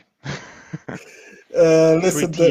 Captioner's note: laughs loudly